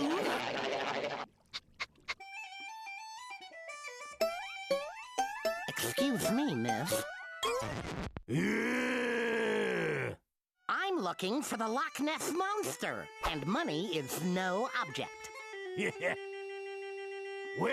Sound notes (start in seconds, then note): 2.4 bagpipes playing; 8.3 growling; 15.8 Sam snickering